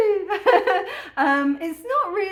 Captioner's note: laughing